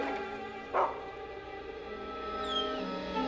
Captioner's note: continues barking